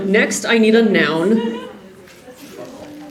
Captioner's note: suspicious giggle